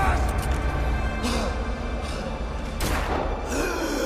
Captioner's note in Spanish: Disparo